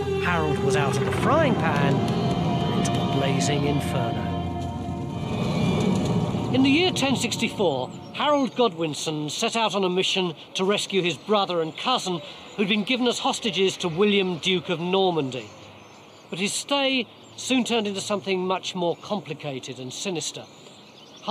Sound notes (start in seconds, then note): 4.0 fire crackling; 4.4 suspenseful music